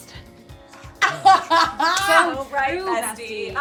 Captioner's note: laughing